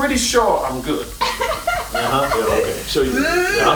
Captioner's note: laughing